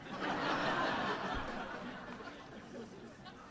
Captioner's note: laughter